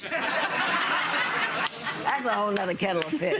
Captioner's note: spectators laughing